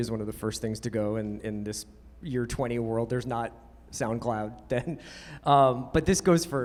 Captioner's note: laughs